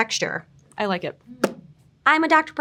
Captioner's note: hands tapping